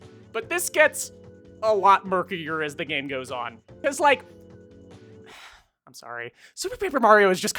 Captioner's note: sighs